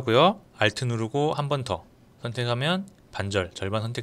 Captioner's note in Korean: 클릭